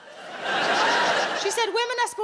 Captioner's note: audience laughs